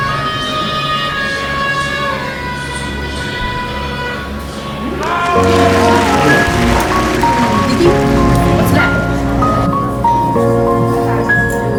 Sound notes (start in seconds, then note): 4.8 applause